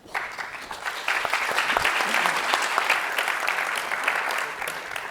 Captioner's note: audience applauding